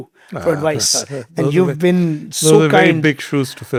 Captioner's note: chuckles